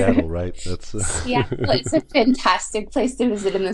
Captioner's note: laughs